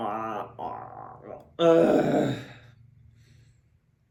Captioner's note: grunts